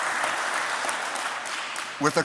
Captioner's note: applause